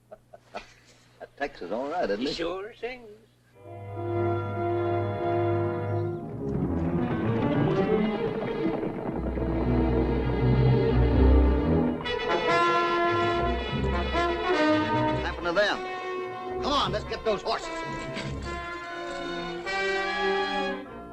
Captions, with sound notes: - Tex is all right. - He sure sings. [ FOREBODING MUSIC ] [ HORSES GALLOPING ] What's happened to them? Come on, let's get those horses!